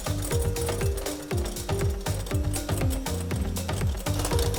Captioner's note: mixer whirring